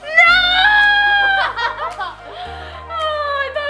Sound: laughs

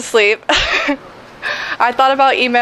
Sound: laughs

